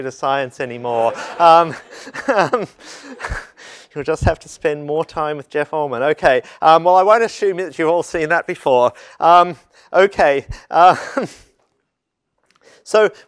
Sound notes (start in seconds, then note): 0.9 laugh